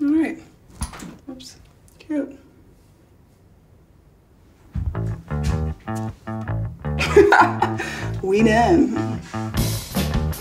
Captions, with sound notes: - Alright, oops, cute. (upbeat bass music) (laughs) We done.